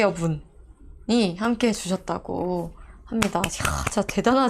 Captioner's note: clapping